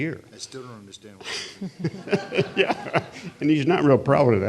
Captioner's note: audience laughing